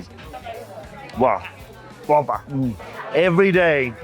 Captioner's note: speaks Portuguese